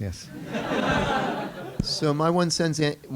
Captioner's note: laughter